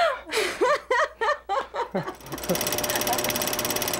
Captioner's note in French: rires